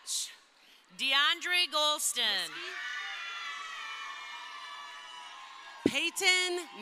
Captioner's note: crowd cheering